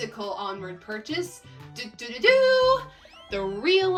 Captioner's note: mouth-made fanfare